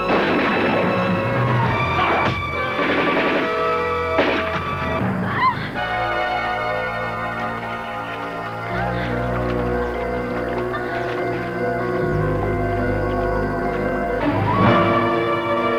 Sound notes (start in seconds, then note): 2.7 gunfire; 5.3 groaning